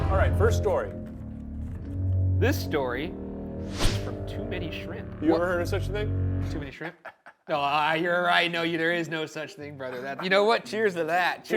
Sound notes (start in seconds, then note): 7.3 laughs quietly